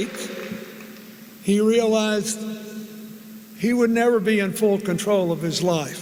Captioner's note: applause